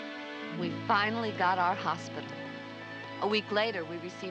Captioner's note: Maggie Voiceover